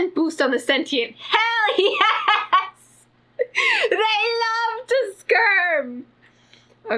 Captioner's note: laughs